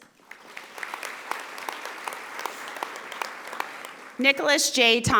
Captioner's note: audience applauding